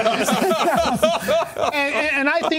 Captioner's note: laughter